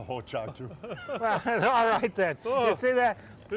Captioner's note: laughs